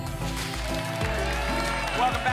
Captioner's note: applause and cheering